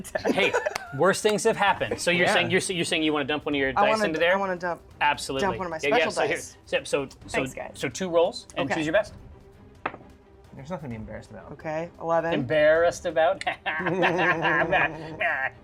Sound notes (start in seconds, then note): 13.4 laughter; 13.4 laughs